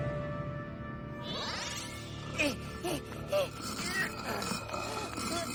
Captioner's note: grunting and panting